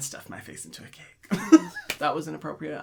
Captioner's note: chuckling